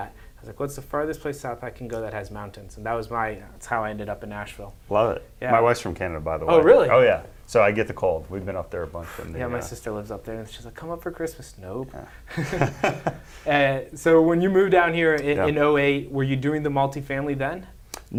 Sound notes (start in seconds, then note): 12.3 both chuckling